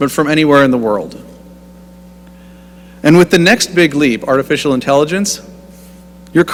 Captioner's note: none